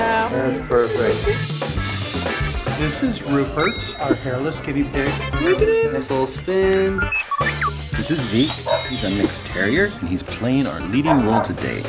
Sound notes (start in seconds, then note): 7.0 r2-d2 sounds